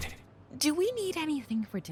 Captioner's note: in Female Passerby’s voice